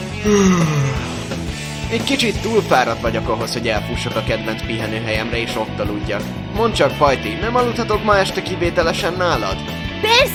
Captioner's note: yawns